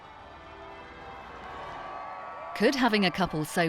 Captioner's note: crowd cheering